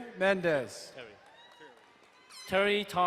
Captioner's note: crowd cheering and applauding